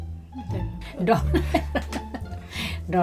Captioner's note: laughs